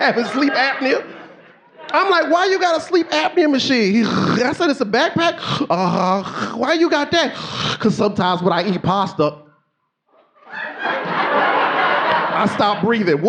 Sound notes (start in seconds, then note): 0.0 laughs; 5.1 snorts; 6.8 snorting; 10.1 audience laughing